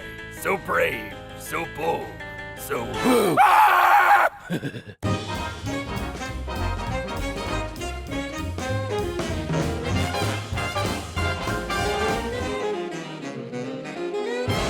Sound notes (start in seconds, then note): 3.2 Gordon screaming; 4.2 Batman laughing